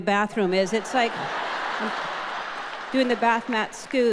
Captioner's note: audience laughing